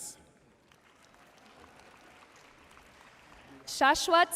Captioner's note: audience cheering and applauding